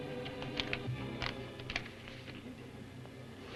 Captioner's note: paper rustles